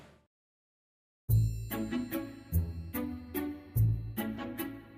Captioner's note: delicate high-pitched chime